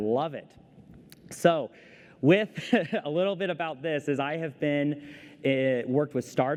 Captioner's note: laughter